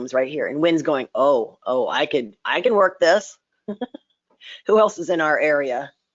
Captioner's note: laughs